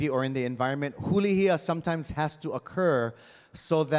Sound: speaking in Hawaiian

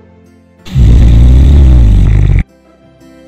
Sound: snoring

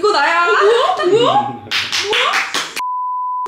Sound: hahaha

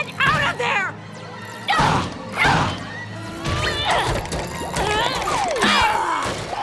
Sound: grunting

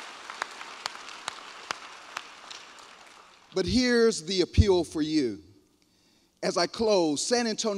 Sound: applause

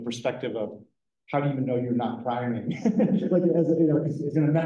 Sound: laughs

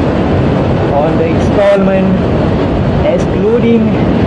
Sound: motorcycle

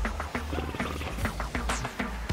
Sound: horse noises

